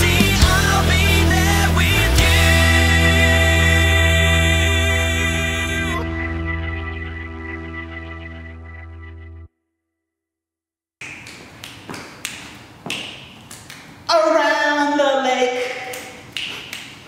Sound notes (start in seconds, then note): 11.6 snaps fingers; 16.3 more snaps